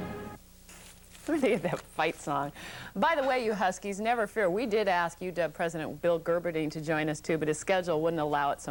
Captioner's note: laughing